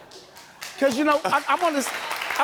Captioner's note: audience applauds